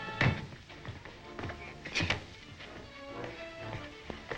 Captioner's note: feet scuffle